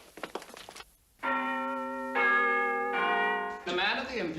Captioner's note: chimes